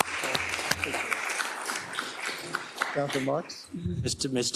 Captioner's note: applause